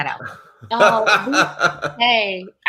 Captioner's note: laughs